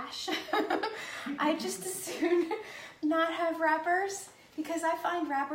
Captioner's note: laughs